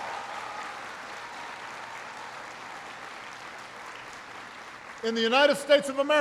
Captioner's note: applause